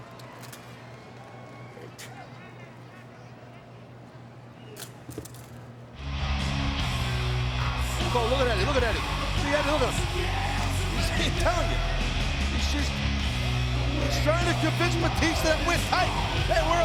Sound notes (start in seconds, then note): 1.7 crowd vocalizing; 6.2 upbeat rock music